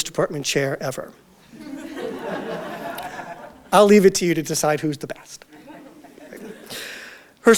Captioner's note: audience Laughter